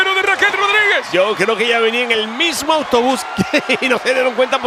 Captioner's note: laugh